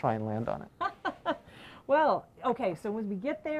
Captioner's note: laughs